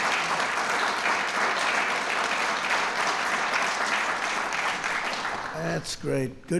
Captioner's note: applause